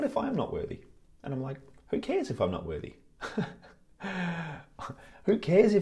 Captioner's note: laughs